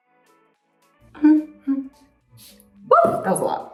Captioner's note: Sofia humming